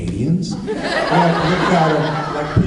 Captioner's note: laughs